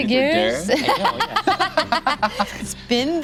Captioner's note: laugh